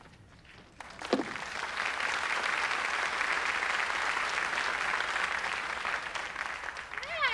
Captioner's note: applause